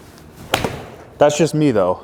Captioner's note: ball smacking